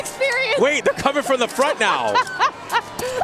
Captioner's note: laughter